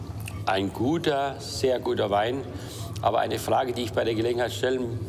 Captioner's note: speaking foreign language